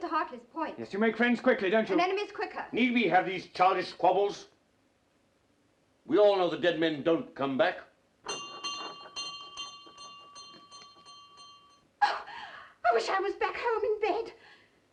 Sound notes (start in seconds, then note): 8.2 bell rings